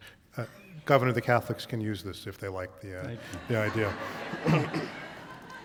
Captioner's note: laughter